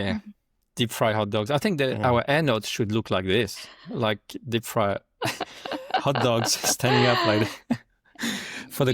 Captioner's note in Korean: 웃음